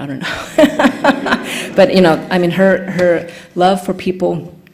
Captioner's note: laughing